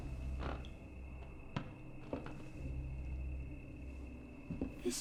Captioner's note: floorboards creaking